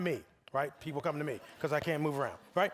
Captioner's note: audience laughing